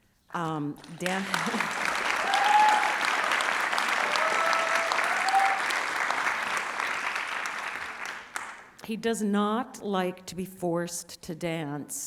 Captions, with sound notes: [ Applause and Cheering ] He does not like to be forced to dance.